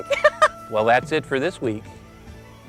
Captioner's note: laughter